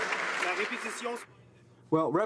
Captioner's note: some Applause